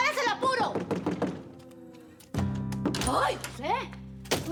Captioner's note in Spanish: Toques en la puerta